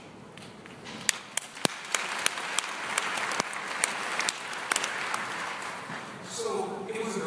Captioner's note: applause